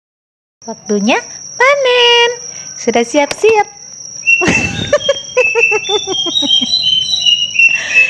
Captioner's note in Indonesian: tertawa